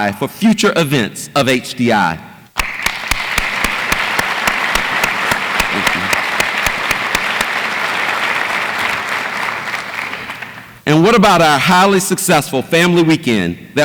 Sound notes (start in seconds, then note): 2.6 audience applauds